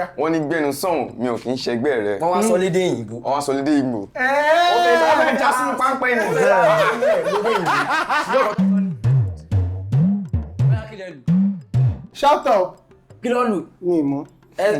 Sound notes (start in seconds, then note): 6.8 drum beat; 7.5 laughs